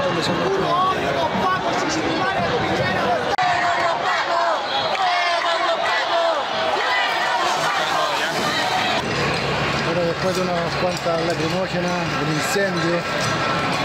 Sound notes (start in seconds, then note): 5.2 people yelling